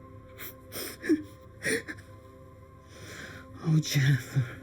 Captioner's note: Eric chuckling